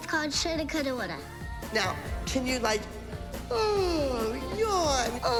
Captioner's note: yawn sound